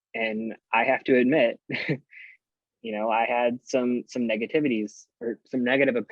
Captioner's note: chuckles